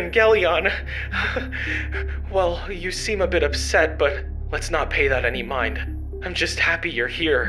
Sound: laughs

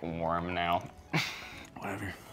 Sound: scoffs

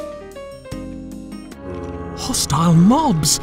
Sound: zombie Sounds

